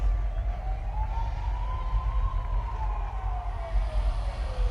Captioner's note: siren wailing